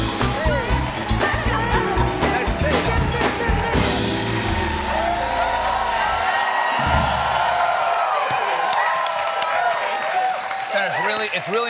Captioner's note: cheers and applause